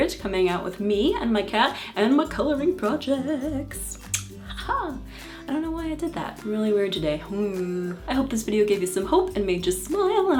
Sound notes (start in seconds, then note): 3.9 kiss